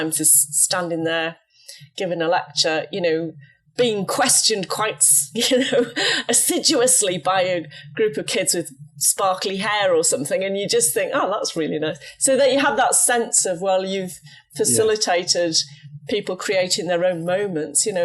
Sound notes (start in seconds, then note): 5.4 laughs